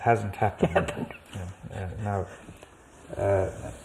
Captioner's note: laughs